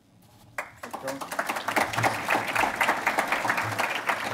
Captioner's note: applauding